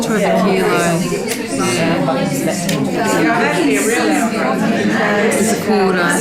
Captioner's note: participant chatter